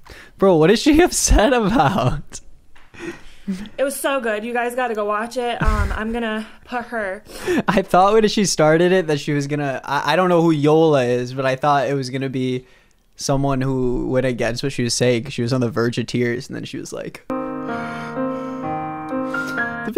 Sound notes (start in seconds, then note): 0.5 laughing; 5.6 laughs; 7.0 sniffs